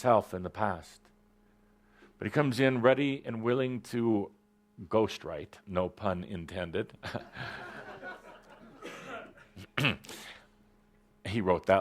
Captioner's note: laughter